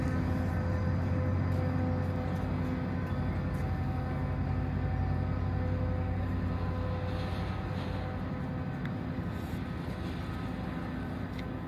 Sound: receding engine noise

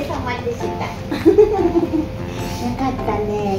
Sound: laughs

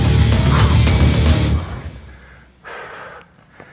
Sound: bell dings

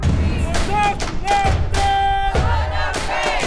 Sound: man shouting; crowd repeating

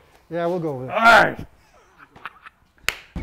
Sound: laughs

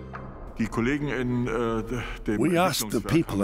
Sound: speaking German

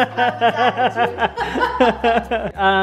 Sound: both laugh

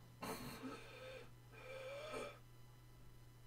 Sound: gasping for air

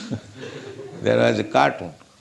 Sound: laughter

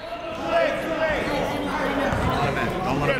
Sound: whistle; chatter

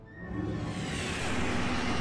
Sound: electric static

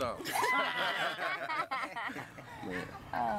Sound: all laugh

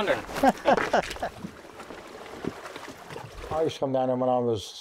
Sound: laughs

